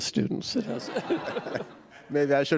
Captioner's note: laughter